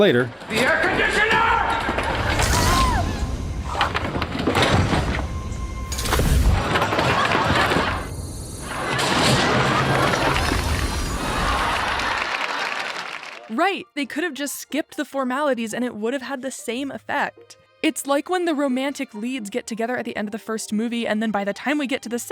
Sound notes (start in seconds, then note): 11.0 studio audience laughs; 11.4 laughing